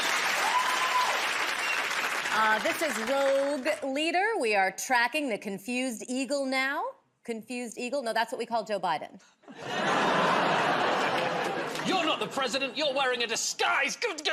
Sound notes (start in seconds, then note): 0.0 cheers and applause; 9.4 laughter